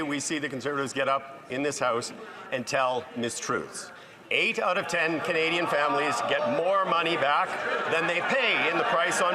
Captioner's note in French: voix de l'interprète